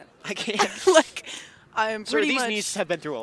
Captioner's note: chuckles